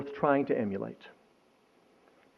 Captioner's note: none